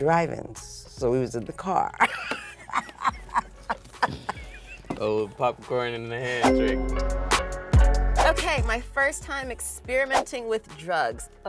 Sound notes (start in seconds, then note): 2.0 both laughing; 5.6 upbeat music